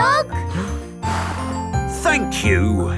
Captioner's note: blows